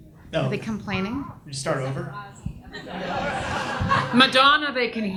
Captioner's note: audience laughs